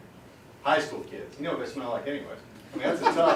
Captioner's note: laughter